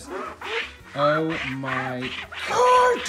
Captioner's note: squeaking